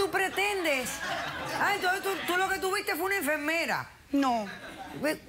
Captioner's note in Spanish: risas